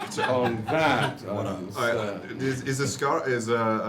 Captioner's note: laughs